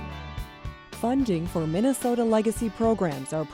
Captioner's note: voiceover